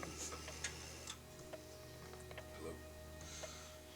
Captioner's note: phone dialing